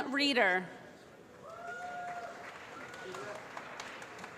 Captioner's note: applause